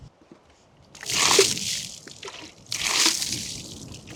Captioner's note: water splashing